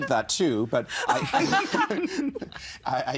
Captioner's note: all laughing